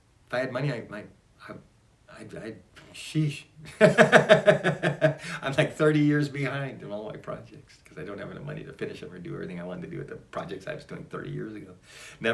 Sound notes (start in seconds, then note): 3.6 laughs